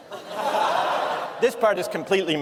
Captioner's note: laughter